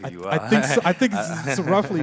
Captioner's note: laughs